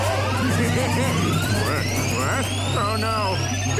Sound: laughing

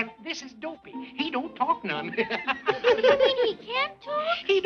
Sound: laughing

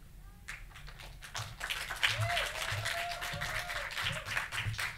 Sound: audience applauding

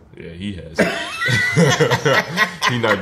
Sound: RJ and Spike laugh

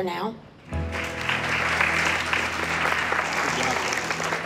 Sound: applause

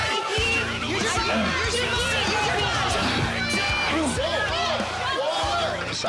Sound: contestants shout

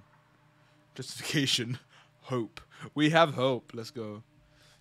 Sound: laughs

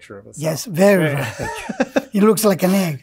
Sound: laughs

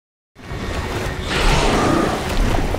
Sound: roar

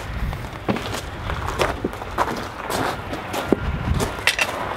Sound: gravel shifting

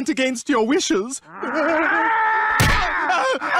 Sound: growling

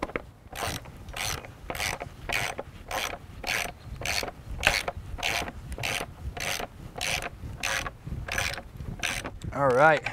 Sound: clicking of ratchet, no additional audio

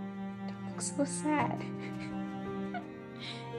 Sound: laughs

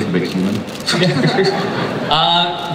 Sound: chuckling

